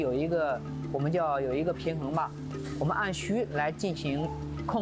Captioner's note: speaking chinese